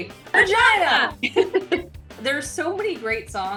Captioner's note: laughing